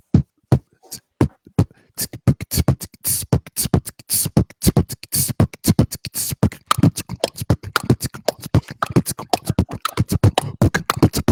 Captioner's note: beat-boxing